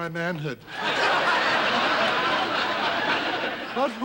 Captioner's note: audience laughing